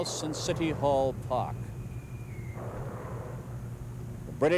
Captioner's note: mortar fire booming